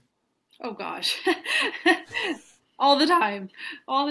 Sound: laughs

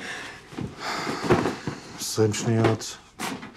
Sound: sighs

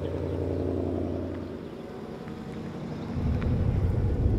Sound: car engine roaring

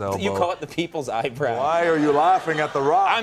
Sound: Conan chuckles

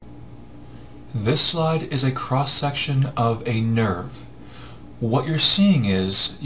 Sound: voiceover

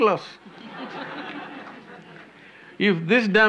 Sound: laughter

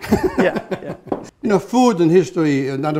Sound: laughter

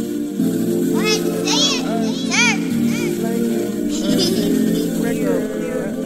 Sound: upbeat music; children shouting and laughing

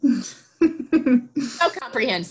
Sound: laughs

